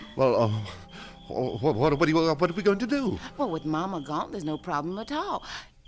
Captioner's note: stammers